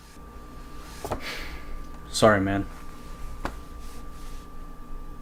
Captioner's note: exhales